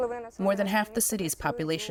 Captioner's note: through translator